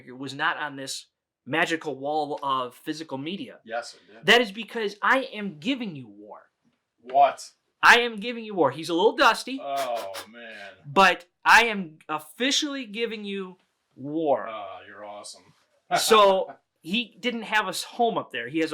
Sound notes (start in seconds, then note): 9.7 blowing; 15.9 laughing